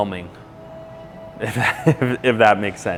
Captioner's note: laughs